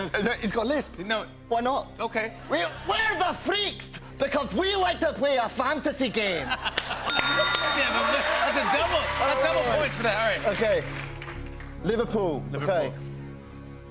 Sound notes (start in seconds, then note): 2.8 Scottish accent; 7.1 ding